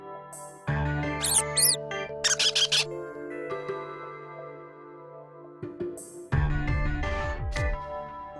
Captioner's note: squeaks